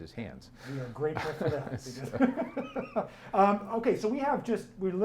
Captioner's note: laughing